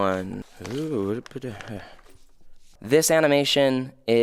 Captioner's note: sighing